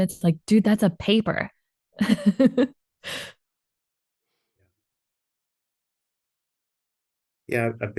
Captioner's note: chuckles